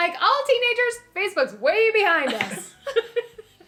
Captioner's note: laughter